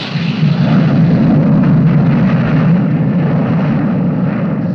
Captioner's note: wind whirring